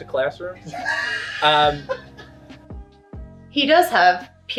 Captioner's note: interviewer laughing